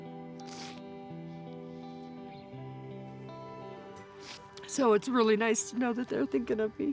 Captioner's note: sniffles